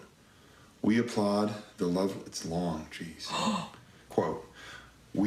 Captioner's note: gasps